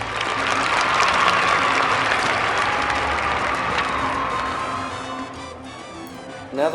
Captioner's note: applause